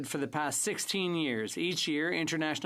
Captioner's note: speaking French